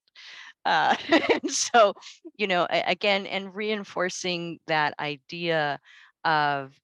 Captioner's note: laughs